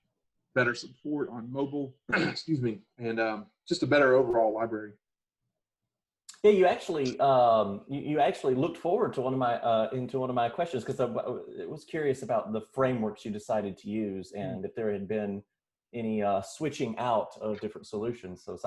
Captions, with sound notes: Better support on mobile. (clears throat) Excuse me. And just a better overall library. - Hey, you actually looked forward into one of my questions 'cause I was curious about the frameworks you decided to use and if there had been any switching out of different solutions.